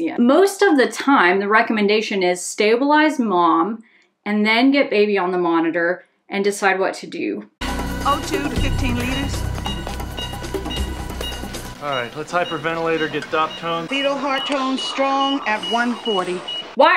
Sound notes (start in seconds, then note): 9.5 monitors beeping